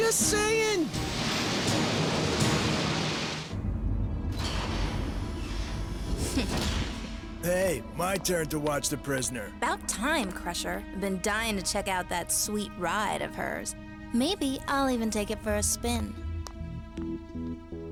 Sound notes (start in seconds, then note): 1.0 jet engines rumble; 4.2 mechanical door whirs